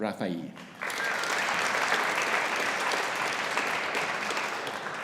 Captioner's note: audience applauding